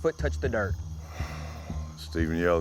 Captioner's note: sigh